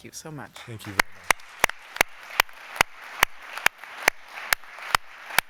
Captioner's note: applause